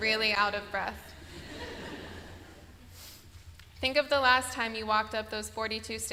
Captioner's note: laughter